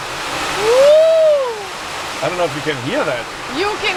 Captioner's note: rain whooshing